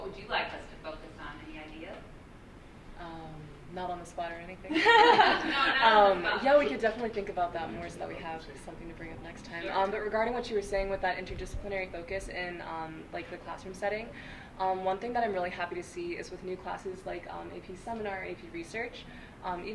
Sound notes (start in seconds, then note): 4.7 laughs; 4.7 people laughing